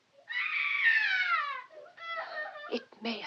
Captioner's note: flora screams, sobbing